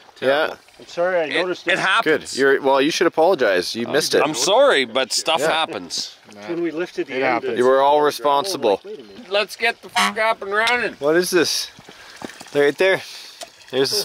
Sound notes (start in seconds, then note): 9.9 car horn honks